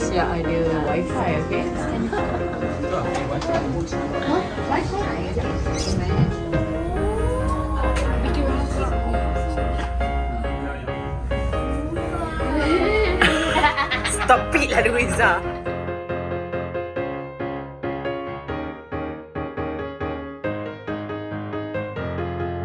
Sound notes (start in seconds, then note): 6.3 laugh; 11.5 background music